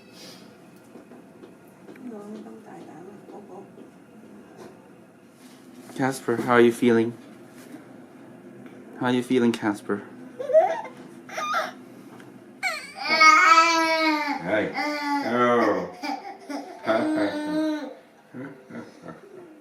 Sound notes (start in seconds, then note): 10.9 baby crying; 13.5 baby and Dad groaning